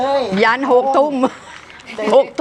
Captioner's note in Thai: เสียงหัวเราะ